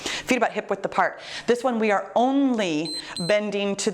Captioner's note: timer beeps